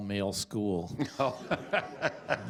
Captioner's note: laughter; chuckling